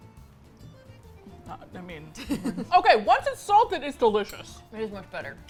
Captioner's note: laughs